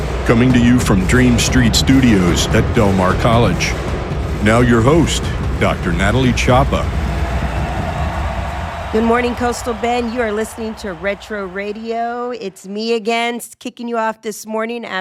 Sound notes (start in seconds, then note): 7.5 people cheering